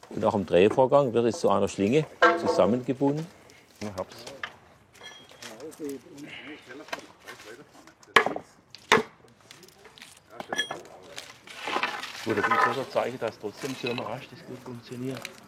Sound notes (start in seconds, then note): 8.2 knocking